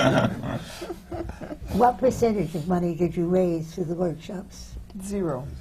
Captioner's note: laughter